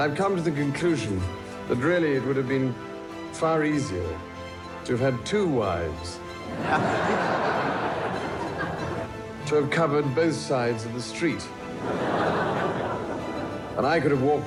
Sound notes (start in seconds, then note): 6.4 crowd laughs